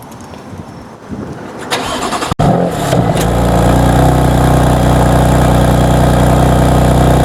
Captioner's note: aggressive exhaust sound...wow!